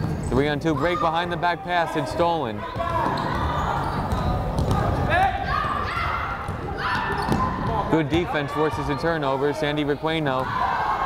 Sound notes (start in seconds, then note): 2.9 crowd chattering; 5.5 players shouting